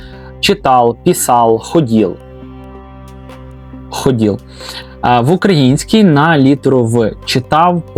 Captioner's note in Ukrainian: сопіння